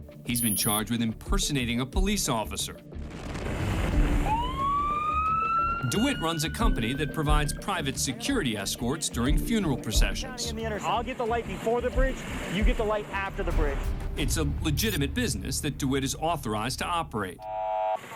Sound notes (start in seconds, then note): 4.0 siren